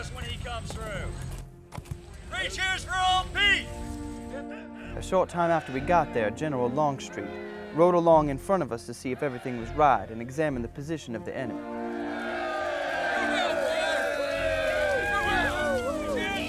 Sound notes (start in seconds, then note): 5.4 voiceover; 13.6 cheering